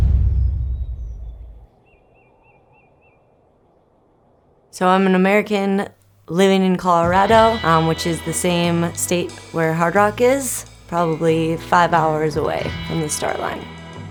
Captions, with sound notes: (birds chirp) So I'm an American living in Colorado, which is the same state where Hardrock is, probably five hours away from the start line.